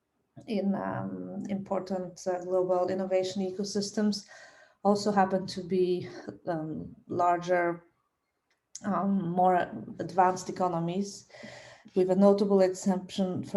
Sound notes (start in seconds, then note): none